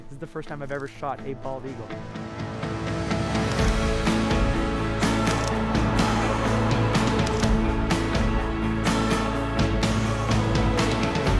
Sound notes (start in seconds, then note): 2.1 upbeat music; 5.3 camera shutter clicks